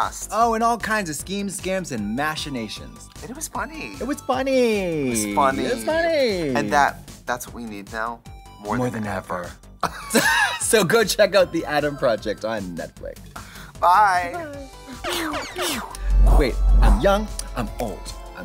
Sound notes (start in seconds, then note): 15.2 laser sounds